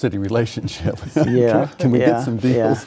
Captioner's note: laughing